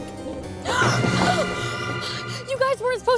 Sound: gasps

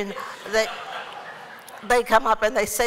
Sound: laughter

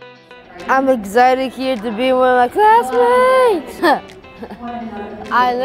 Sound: upbeat music; laughing

